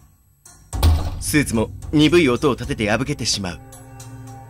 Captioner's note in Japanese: 尻もちをつく音：ドン！